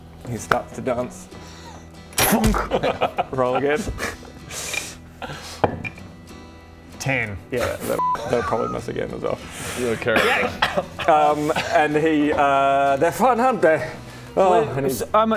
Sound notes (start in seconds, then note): 2.2 thunk!; 14.3 sigh